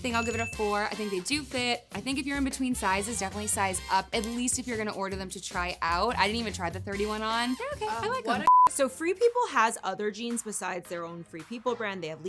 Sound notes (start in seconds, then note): 0.0 bell ringing; 8.4 electronic beeping